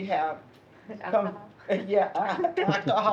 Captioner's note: laugh